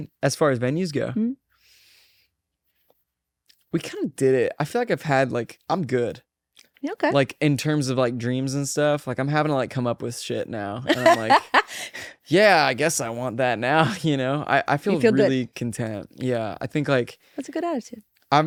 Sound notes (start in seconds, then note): 10.9 laughs